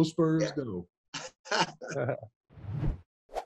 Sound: laughs

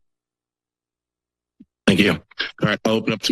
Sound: silence

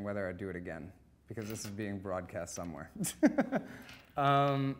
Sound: laughing

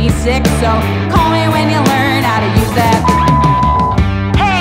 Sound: beep

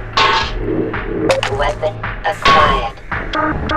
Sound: blip

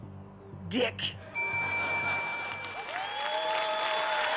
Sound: bell rings; laughter

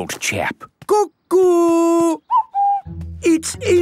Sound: distant cuckoo

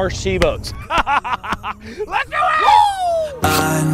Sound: laughs

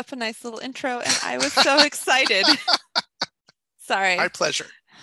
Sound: laughs

